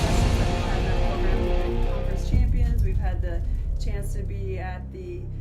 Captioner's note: fire crackling